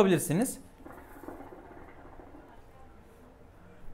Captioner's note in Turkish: nargile sesi